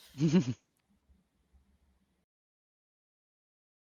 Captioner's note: giggles softly